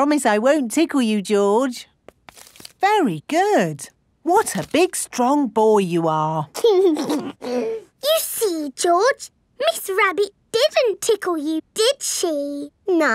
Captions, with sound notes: I promise I won't tickle you, George. Very good. What a big strong boy you are. (GIGGLES) You see, George? Miss Rabbit didn't tickle you, did she?